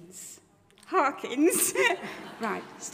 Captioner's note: chuckles; audience chuckles